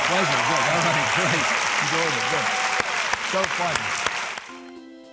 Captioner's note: audience cheering